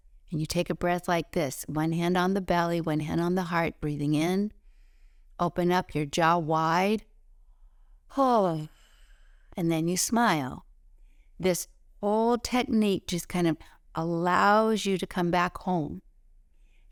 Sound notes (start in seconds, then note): 8.7 breathe out